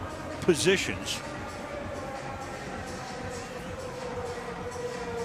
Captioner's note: pa announcement